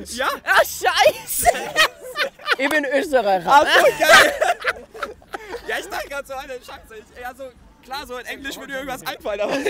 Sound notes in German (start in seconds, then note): 3.4 lachen